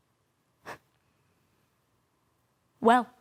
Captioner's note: silent; sharp breaths